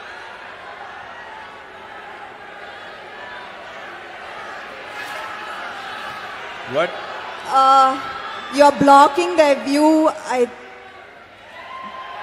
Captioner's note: applause